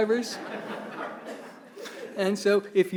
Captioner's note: attendees laughing